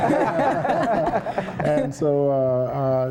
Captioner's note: laughter